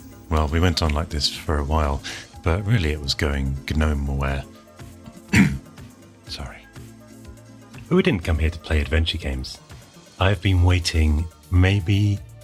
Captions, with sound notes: Well, we went on this for a while But really, it was going Gnowhere. (clears throat) (whispers) Sorry. But we didn't come here to play adventure games I have been waitin maybe ..